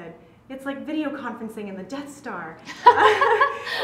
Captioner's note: laugh